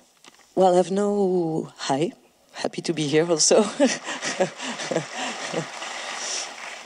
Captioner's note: laugh